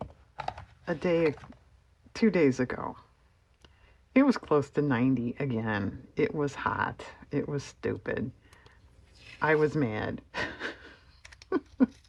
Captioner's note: laughs